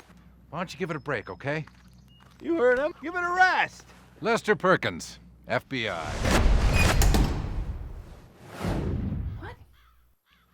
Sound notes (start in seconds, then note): 5.9 whooshing sounds